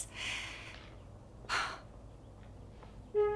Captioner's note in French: soupirs